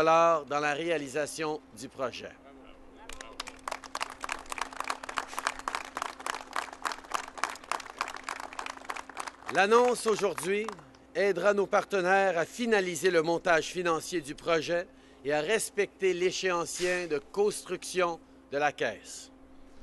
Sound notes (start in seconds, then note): 6.6 applause